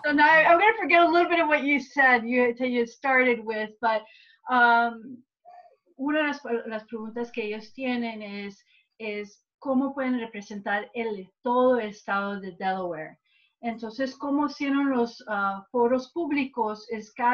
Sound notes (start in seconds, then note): 5.5 gives summarization in spanish